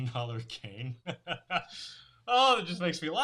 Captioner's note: laughs